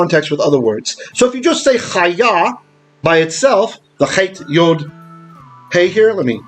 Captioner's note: Hebrew